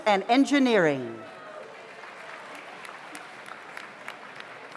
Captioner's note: audience applauds